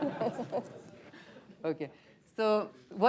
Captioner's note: laughter